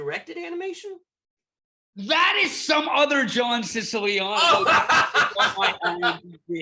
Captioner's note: laughter